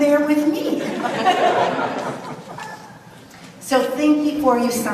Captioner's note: audience laughs